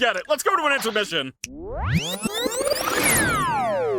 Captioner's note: rewound audio warbles